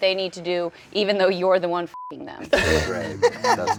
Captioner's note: beep